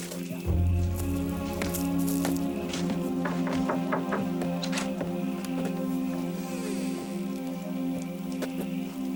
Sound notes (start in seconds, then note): 5.1 knocking on door